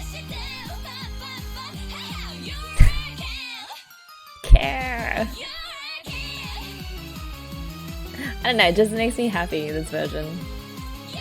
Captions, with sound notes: [laughs] 'Kaargh!' I don't know, it just makes me happy this version.